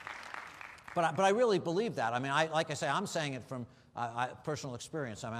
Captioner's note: applause